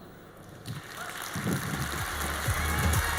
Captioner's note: audience applauds